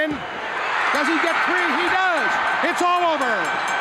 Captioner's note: bell rings